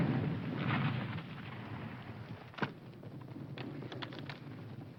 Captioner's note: none